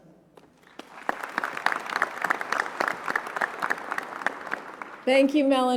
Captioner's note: applause